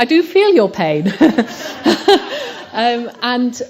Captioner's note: laughter